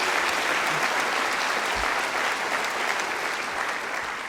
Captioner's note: applause